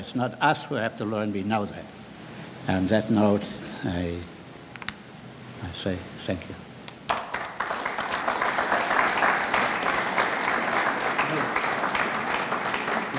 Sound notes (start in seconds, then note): 7.0 audience clapping